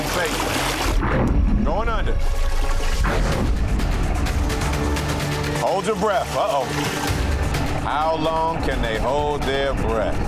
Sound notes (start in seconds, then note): 0.0 water splashing; 2.2 water gurgling; 2.9 urgent music